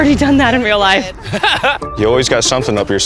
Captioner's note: laughs